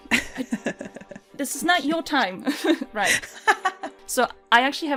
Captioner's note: laughter